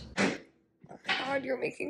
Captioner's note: making noise in the kitchen